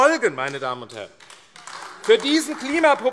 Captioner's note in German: Beifall AfD - Zurufe